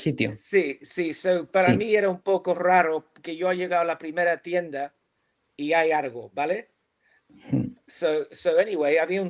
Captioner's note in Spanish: carraspeo